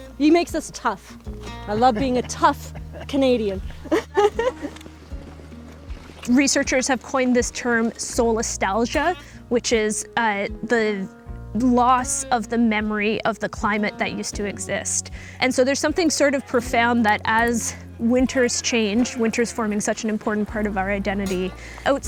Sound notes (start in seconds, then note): 1.4 laughs